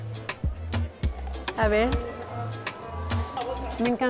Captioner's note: speaking Spanish